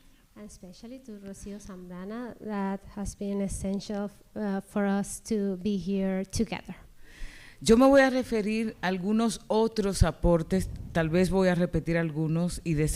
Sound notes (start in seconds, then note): 7.5 speaking spanish